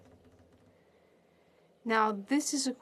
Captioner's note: speaking French